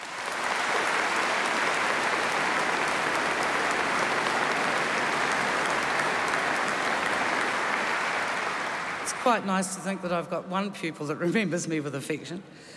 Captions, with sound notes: [Applause] >> It's quite nice to think that I've got one pupil that remembers me with affection.